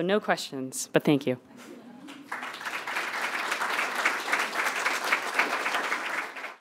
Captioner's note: applause